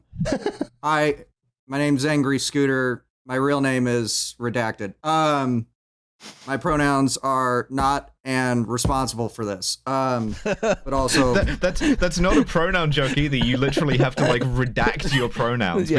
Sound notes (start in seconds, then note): 0.2 laughs; 7.7 thumps table; 10.2 laughs